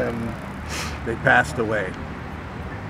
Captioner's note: sniffs